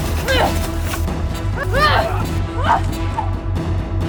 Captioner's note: grunts; shouts